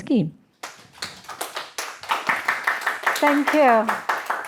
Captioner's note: applause